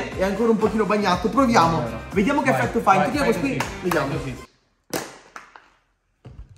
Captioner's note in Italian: Applauso